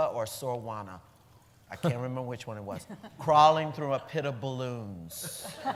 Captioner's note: laughter